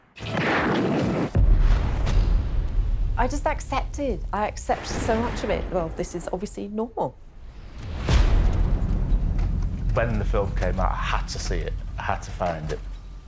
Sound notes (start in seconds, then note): 0.1 guns blasting; 1.3 thud echoing; 7.2 booming thud echoing